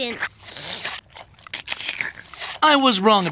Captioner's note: slurping